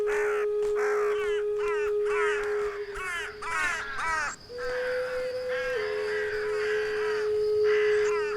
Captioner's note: crows call, the flute plays